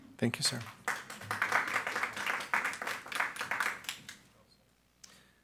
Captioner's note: audience clapping